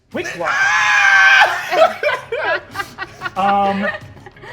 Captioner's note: screeches